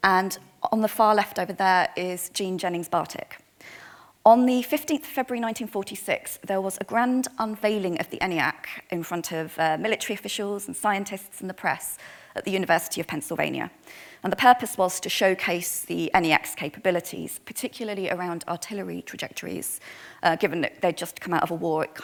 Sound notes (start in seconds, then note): none